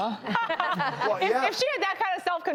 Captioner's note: laughter